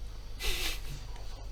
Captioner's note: giggle